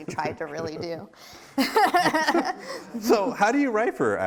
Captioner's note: both laughing